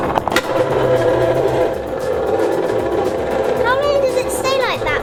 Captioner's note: machine grinding